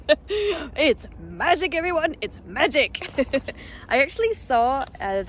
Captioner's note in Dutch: lach; lach